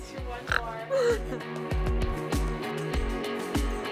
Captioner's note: giggling; snorting